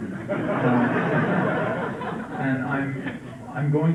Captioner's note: laughter